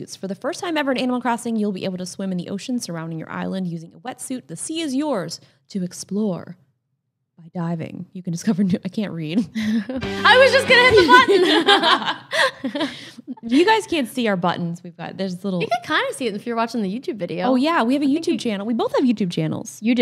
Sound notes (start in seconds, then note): 9.9 upbeat music; 10.8 both chuckling; 11.5 both laughing